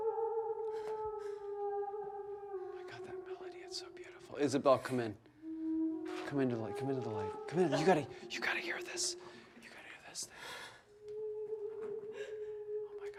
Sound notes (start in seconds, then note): 4.1 woman singing; 10.0 whispers